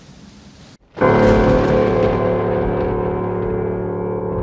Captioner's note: thunder